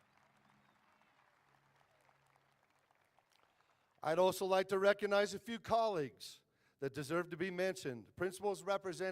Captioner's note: applause